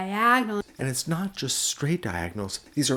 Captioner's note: voiceover